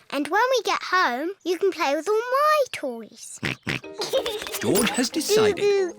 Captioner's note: snorts and giggles